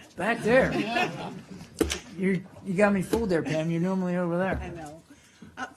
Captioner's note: laughter